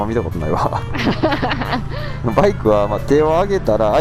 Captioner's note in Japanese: 笑い